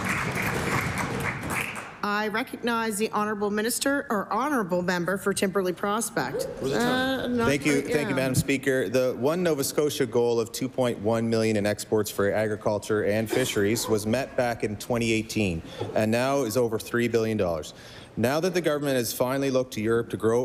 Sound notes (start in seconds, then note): 2.4 applause